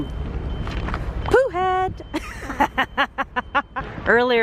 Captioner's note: laughs